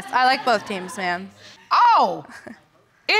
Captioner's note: audience laughs; chuckles